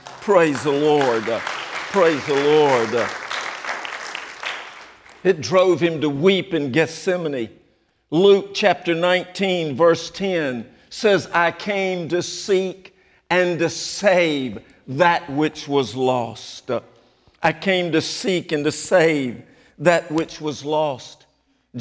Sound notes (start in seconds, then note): 3.4 applause